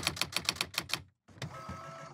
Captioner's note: typing